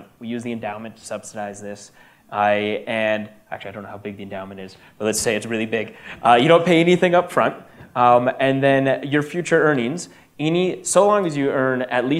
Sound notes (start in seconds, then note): none